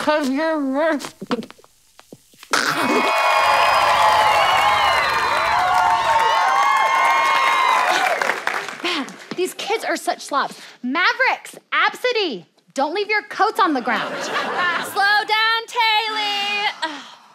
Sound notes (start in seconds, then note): 2.5 gags; 8.2 scoffs